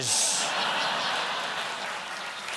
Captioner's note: applause; laughter